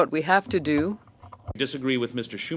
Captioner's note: speaking French